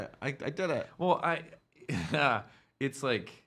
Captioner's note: chuckling